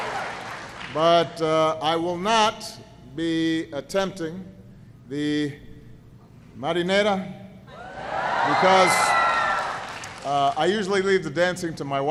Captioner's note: applause